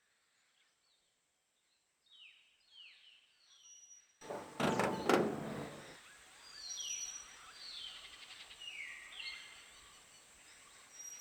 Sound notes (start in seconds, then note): none